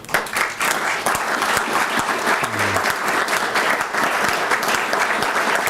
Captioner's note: applause